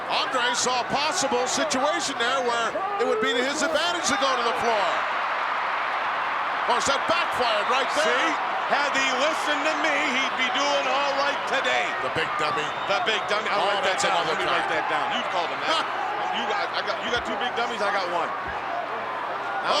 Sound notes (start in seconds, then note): 5.0 crowd cheering